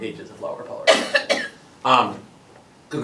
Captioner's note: clears throat